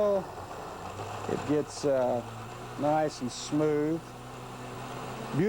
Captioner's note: blender whirring